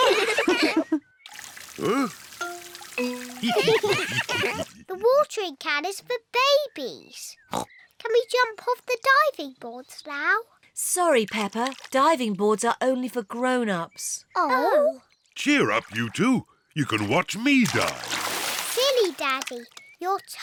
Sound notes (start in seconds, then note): 0.0 all laugh; 3.4 all laugh; 7.5 oinks